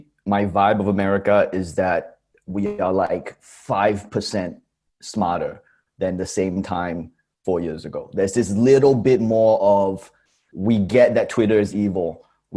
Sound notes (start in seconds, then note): none